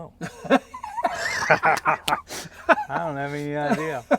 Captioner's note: laugh